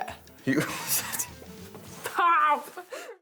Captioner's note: chuckles